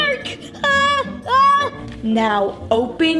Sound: screaming

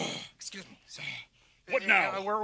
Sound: Sam sighing

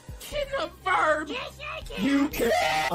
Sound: high-pitched voice

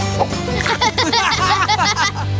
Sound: laughing

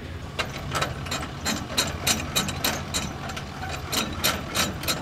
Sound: metal rattling

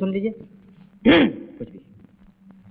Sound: clears throat

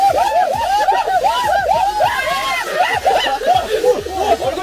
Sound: loud screams echo throughout the quiet lake

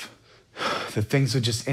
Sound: sighs

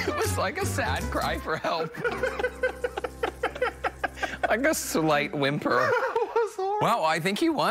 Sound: laughter

